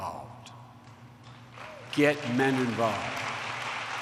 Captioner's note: applause